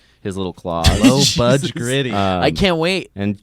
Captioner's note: laughs